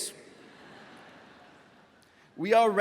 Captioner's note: graduates laughing